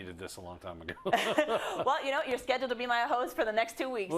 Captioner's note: laugh